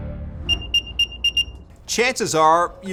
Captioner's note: beeping